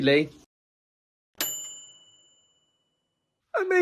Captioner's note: bright bell dinging